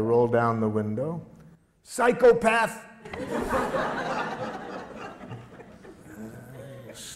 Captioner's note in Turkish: Gülüşmeler